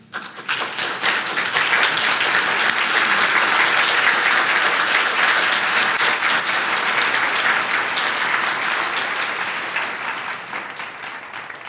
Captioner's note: clapping